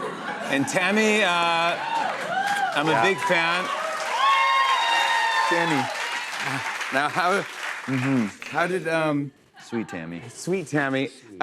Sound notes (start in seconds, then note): 0.0 laughter; 3.5 cheers and applause